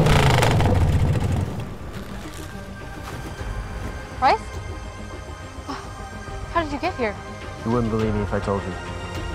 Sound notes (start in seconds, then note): 0.0 motorcycle engine cuts